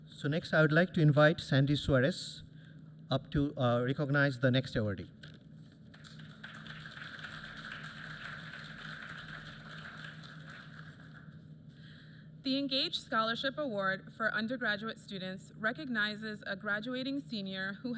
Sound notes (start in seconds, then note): 5.8 applause